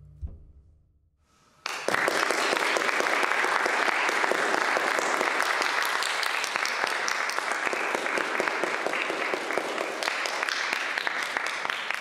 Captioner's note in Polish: Aplauz